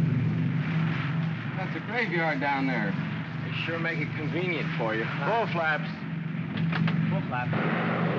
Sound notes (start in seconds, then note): 6.5 switch clicks; 7.6 aircraft rumbles